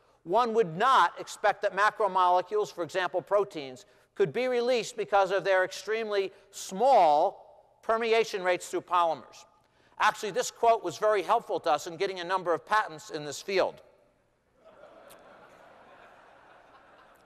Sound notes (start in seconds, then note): 14.5 laughter